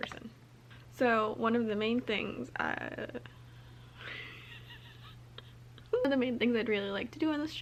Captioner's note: laughter